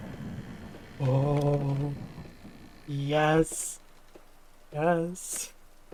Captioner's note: door opening sound